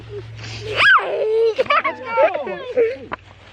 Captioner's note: laughing